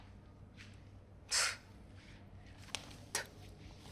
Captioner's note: scoffs